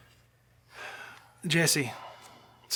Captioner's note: sighing